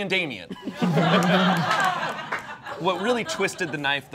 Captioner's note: all laughing